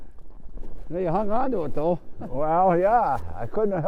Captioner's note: laughing